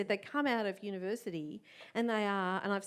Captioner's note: none